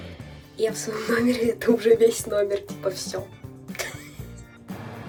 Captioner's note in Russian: смех